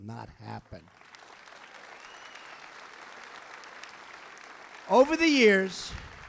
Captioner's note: applause